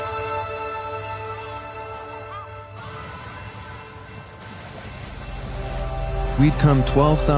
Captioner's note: locke warning bells ringing